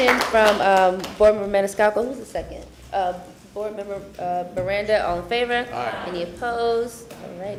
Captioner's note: applause